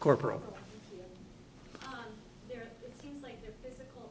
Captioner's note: voiceover